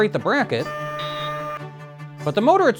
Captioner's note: buzzing